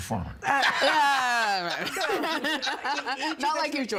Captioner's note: laughing